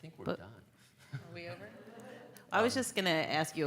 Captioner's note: laughter